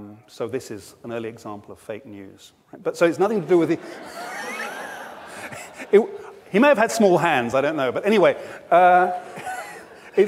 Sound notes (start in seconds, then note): 3.3 audience laughs; 9.1 laughs